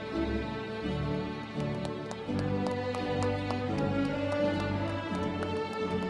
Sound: applause

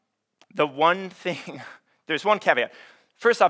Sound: chuckles

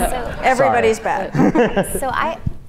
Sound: audience laughs

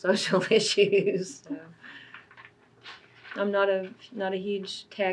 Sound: laughs

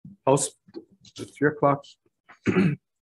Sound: clears throat

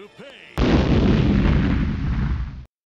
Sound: boom!!!

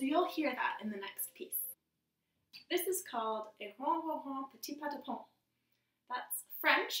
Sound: French

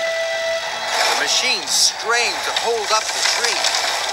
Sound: straining

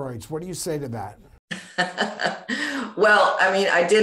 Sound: chuckles

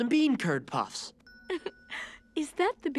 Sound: giggling

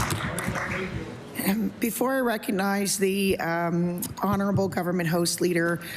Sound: applause

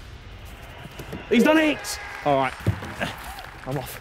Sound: clapping soundbite

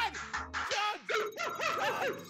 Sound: laugh

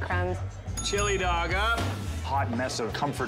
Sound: bell dinging

